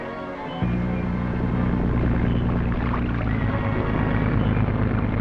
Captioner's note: engine rumbling